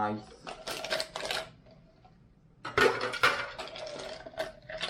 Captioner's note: ice clatters